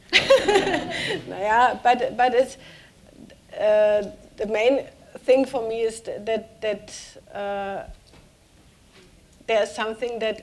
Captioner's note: speaking german